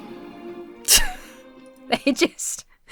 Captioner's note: wheezes